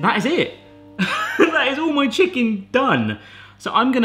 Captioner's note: laughs